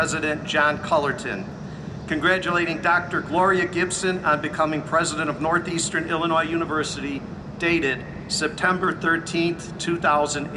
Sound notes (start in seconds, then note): none